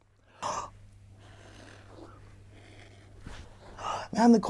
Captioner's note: air blowing sounds can be heard